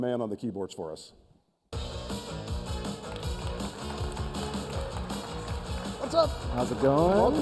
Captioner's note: applause